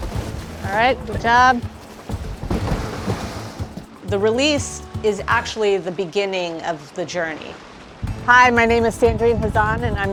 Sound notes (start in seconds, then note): 0.0 water splashing; 2.5 water splashing